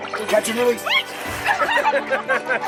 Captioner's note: chuckling; squealing